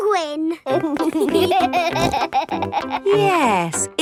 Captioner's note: laughing